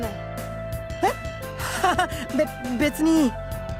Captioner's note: awkward laugh